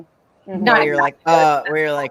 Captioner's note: groans